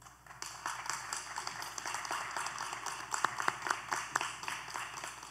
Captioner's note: applause